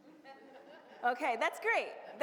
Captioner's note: audience laughs